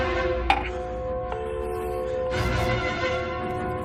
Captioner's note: dial tone